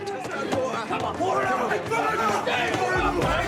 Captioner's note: men screaming